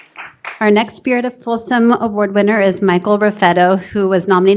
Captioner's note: applause